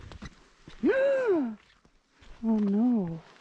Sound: gasping

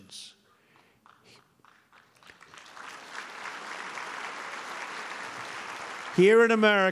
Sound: applause

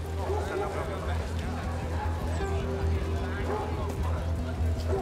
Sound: overlapping chatter

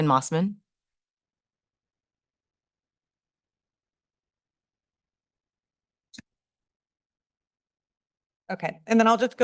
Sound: silence

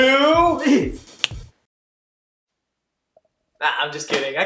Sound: snap!

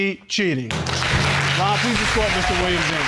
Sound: audience applauding

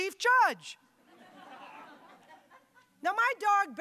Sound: audience laughing

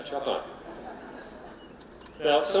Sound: laughing

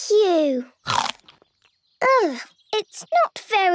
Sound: crunch!

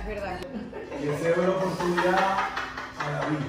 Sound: mom laughing

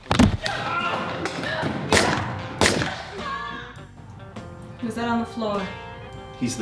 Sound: yelling, two gunshots, more yelling

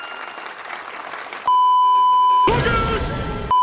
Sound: beeeeeep

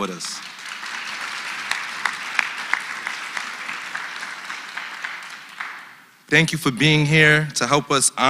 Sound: applause

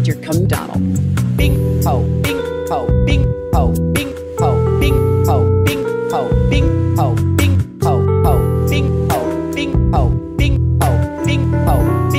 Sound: the sounds of the most unholy sex imaginable

